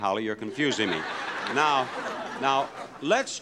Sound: laughing

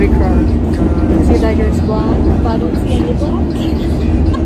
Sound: laughing

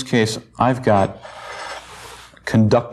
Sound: scraping

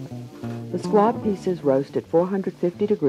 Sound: voiceover

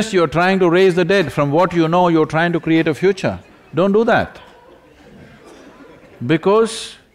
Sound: few laugh; few laugh

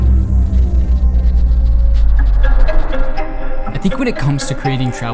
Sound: pencil scratching on paper

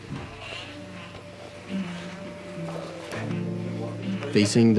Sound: toothbrush buzzing

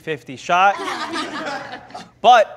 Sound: laughter

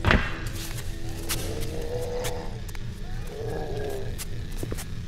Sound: zombie gurgling; zombie groaning

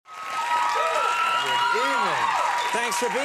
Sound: crowd cheering

